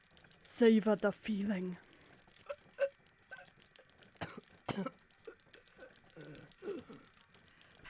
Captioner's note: oscar coughs, wheezes